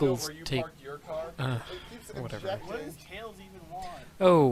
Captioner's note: dejected sigh